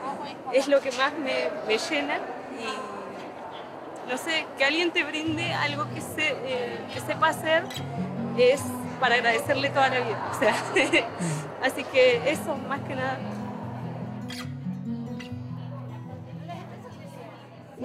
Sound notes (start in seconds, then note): 10.5 excited laugh; 13.9 guitar music